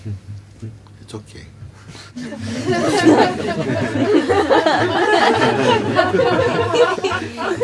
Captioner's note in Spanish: risas